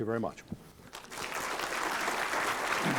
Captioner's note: applause